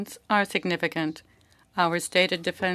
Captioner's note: speaking French